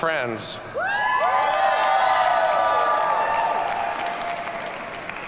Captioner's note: audience cheers and applauds